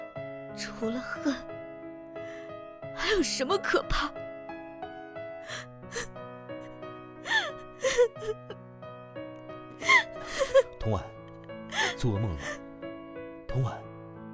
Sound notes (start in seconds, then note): 5.5 sobbing... sobbing; 7.8 sob... whimper; 7.8 whimper... whimper